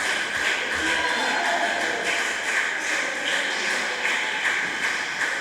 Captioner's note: applause